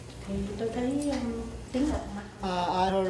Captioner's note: speaking Vietnamese